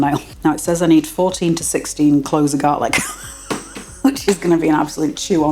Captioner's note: laugh